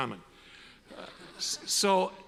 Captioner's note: audience laughs